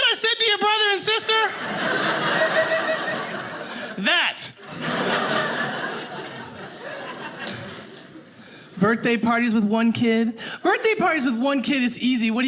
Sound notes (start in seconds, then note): 4.5 audience laughing